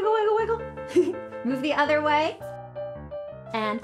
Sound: giggles

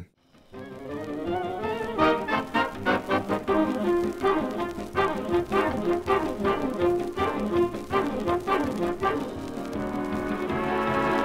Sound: assorted radido clips

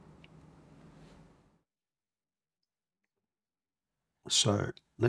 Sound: silence

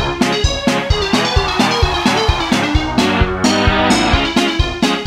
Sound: audience cheering

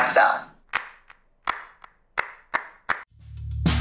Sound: hands clapping

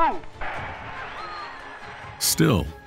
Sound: crowd cheering and applauding

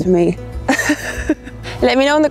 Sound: chuckles

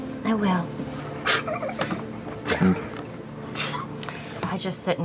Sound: laughter

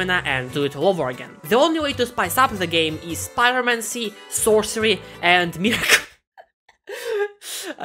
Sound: laughter

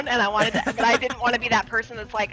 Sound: laugh

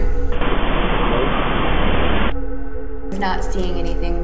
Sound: static hissing

